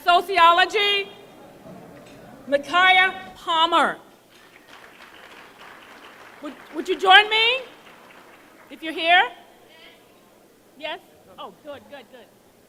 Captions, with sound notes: And Sociology, Micaiah Palmer. [ Applause ] Would you join me if you're here? >> Yes. >> Yes? Oh, good, good, good.